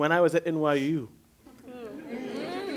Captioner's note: affirmative chatter